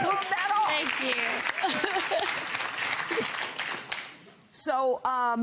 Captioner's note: audience applauding